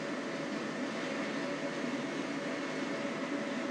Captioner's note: none